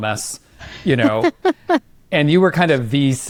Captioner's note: laughs